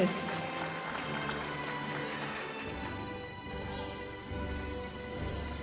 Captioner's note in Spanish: aplausos de la audiencia